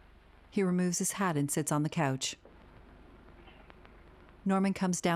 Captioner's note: footsteps approaching